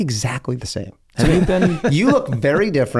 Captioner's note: Charlie laughs